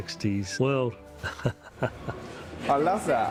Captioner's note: laughs